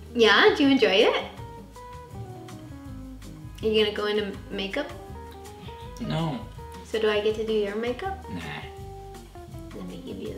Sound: old Hollywood voice

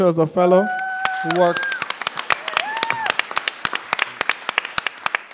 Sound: applause

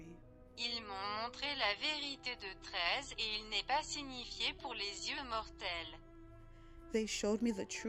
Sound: french Language

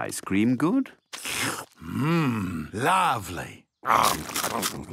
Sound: slurps

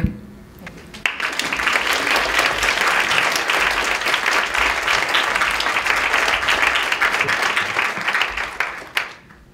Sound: clapping

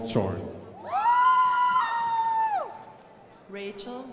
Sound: crowd applauding

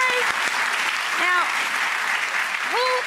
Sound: audience applauds

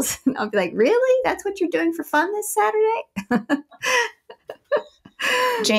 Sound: laughs

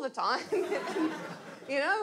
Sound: audience laughs

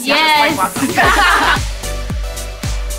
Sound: laughs; upbeat music

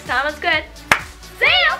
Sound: claps

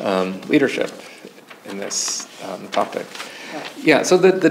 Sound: pages rustling

